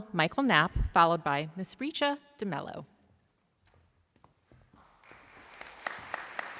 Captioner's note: applause